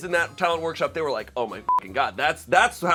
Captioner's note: beep